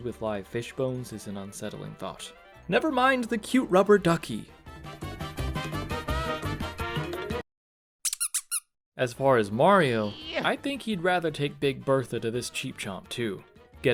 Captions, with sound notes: with live Fish Bones is an unsettling thought. nevermind the cute rubber ducky! *silence, squeak* As far as Mario, I think he'd rather take Big Bertha to this Cheep Chomp too.